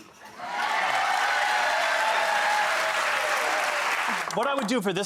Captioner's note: audience applauds